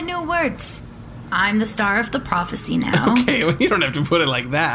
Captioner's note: laughing